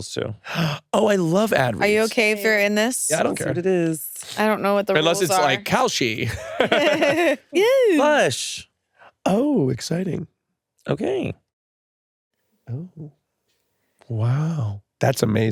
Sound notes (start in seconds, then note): 5.9 laughs